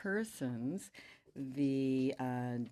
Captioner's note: speaking French